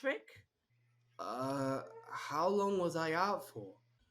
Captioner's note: groans